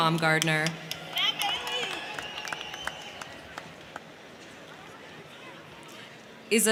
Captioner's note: crowd clapping; crowd cheering